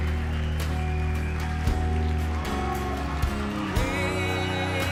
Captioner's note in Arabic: يهتف الجمهور ويصفق